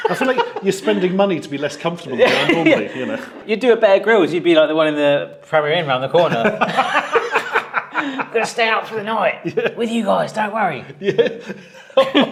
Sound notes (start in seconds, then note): 6.3 laughs loudly